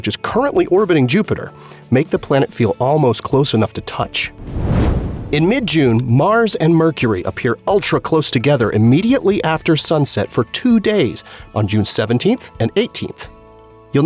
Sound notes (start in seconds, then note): 4.3 whoosh